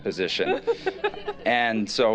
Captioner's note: laughter